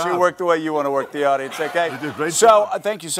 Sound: audience laughing

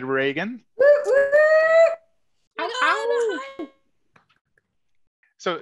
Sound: howl

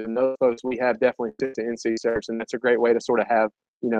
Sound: audio warping

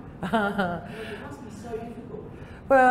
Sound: laughter

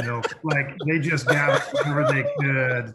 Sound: laughs

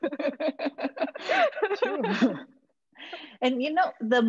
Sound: all laughing

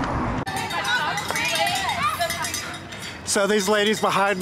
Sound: cowbells chime

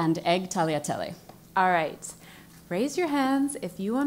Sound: none

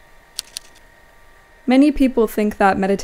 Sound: keyboard clacking

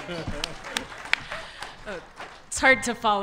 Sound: audience laughter

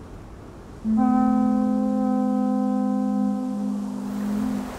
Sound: horn blowing

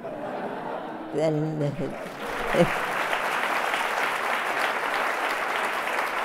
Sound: laughter; audience applauds

